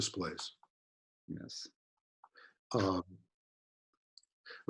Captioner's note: chuckles